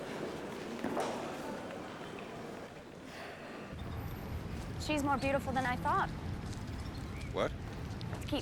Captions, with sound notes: (Inspector sighs) She's more beautiful than I thought. - What?